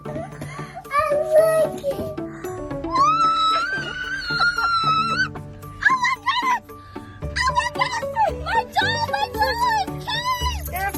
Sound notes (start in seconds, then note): 2.9 screaming